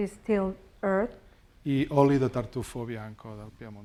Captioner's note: speaking spanish